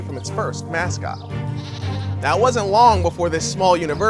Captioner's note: goat bleating